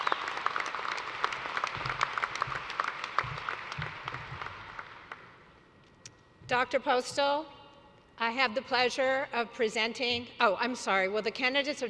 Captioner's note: cheers and applause